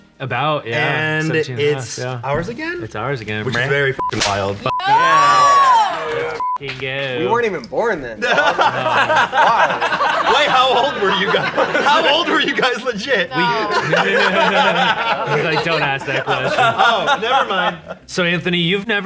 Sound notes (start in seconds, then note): 4.0 beep; 6.4 beep; 8.2 laughing; 10.0 everyone laughing; 14.1 group laughing